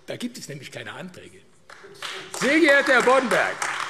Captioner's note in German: Beifall AfD